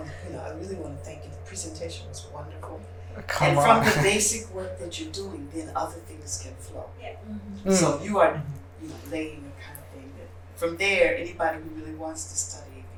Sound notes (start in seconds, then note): 3.2 chuckles